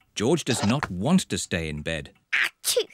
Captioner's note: sneezes